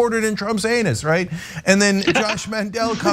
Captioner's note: laugh